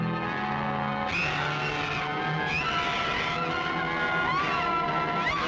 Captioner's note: screaming